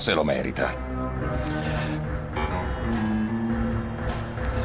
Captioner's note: inhaling